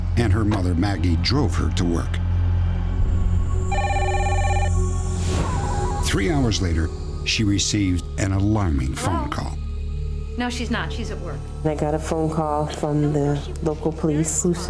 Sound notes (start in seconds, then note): 3.7 phone rings